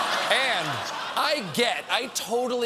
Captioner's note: laughter